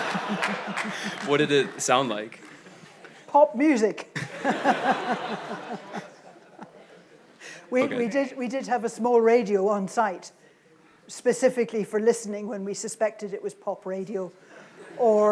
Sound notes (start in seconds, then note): 0.0 audience laughs; 4.2 laughs